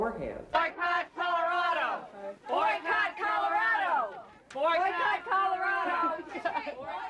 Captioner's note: chant